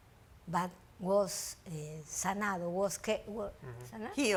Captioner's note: speaks foreign language